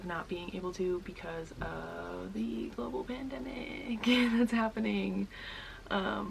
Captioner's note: laughs